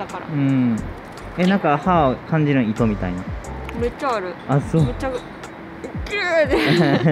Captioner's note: laughter